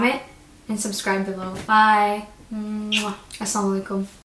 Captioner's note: blows kisses